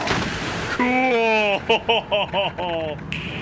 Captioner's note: laughs